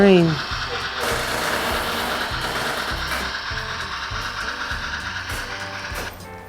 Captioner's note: train whirs; upbeat music continues